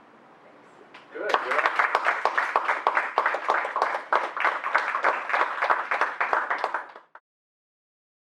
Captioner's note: applause